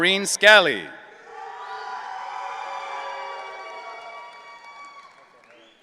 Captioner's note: audience cheering